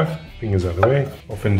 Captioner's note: knife chopping